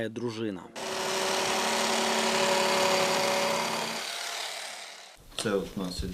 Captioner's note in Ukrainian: Звук електроножиць